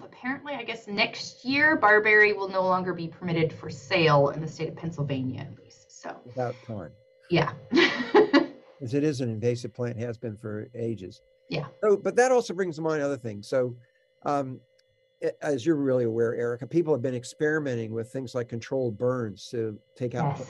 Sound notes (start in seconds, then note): 8.8 laughs